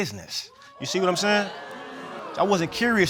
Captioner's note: audience gasps